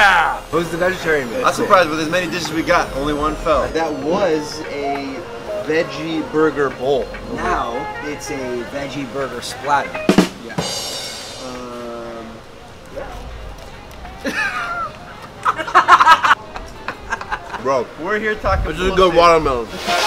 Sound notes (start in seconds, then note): 10.0 ba dum tss; 14.2 laughter